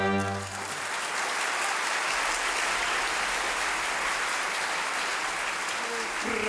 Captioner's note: clapping